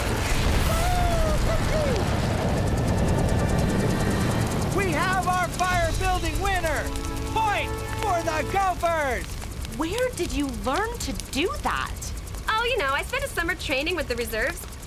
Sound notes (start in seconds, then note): 0.6 Chris Whooping